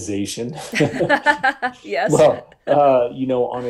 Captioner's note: laughing